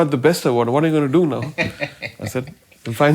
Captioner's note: laughs